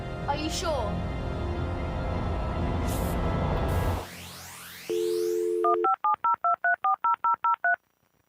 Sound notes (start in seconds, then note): 5.5 dial sounds